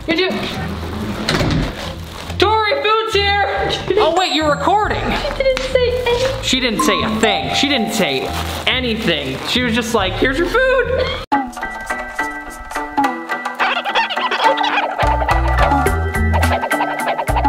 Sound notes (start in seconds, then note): 1.2 door closes; 11.4 upbeat mellow music